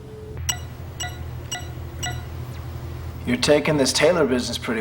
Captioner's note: monitor beeps